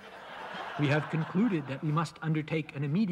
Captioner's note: laughter